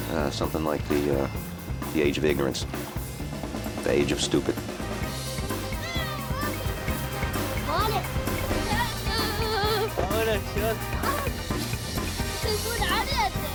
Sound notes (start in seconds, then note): 8.4 speaking in foreign language